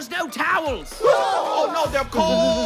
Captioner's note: yelling